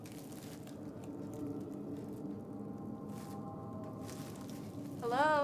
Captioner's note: ominous music; leaves crunch